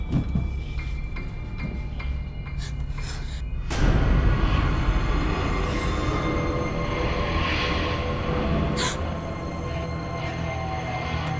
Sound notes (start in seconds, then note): 8.6 gasps